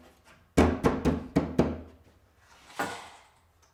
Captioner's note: hand thudding